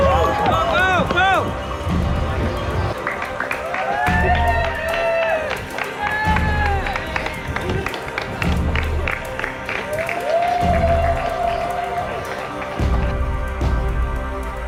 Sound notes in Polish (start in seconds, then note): 2.9 Aplauz